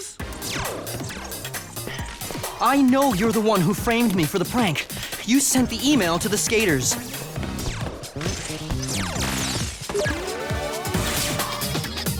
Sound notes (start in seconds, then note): 0.1 game beeps and blips; 1.8 panting